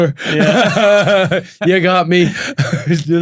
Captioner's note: laughs